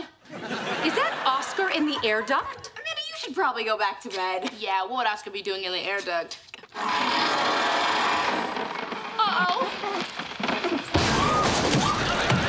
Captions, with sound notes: Is that Oscar in the air duct? Amanda, you should probably go back to bed. Yeah, what would Oscar be doing in the air duct? [creaking] Uh-oh.